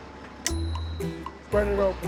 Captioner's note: snap